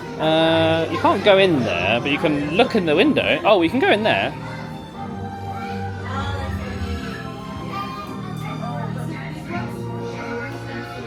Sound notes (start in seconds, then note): 5.4 whimsical music plays; 5.5 children chatter